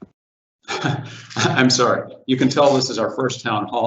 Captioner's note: chuckling